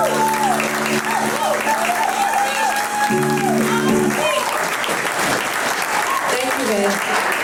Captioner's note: applause